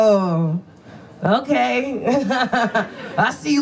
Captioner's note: audience laughs